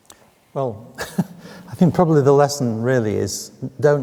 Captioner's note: chuckles